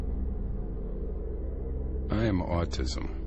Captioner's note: low unsettling hum